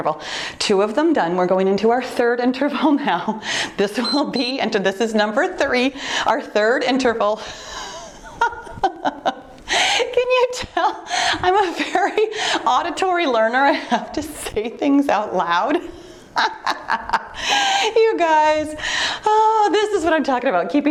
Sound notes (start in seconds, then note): 3.9 timer beeps; 7.8 laughing; 16.3 laughing